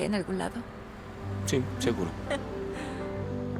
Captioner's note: Esperanza ríe